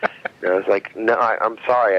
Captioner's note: laughing